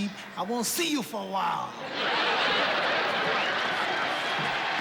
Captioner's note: laughter